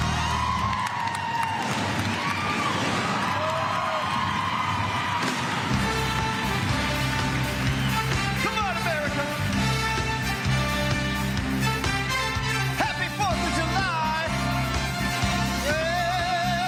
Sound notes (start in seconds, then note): 5.1 crowd cheering